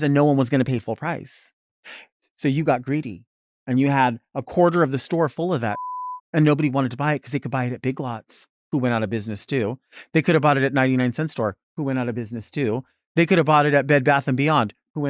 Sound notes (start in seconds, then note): 5.7 beep